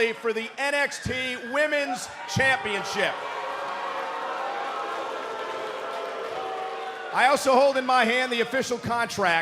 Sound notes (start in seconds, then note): 4.6 cheers & boos